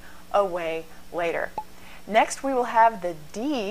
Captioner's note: pop